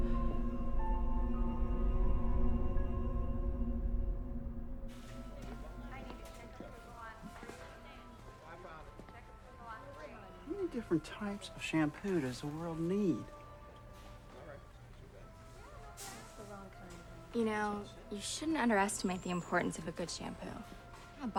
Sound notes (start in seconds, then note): 0.0 suspenseful music; 6.3 store worker announcing